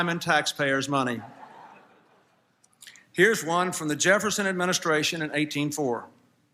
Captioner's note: laughter